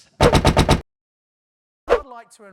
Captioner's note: punctuated banging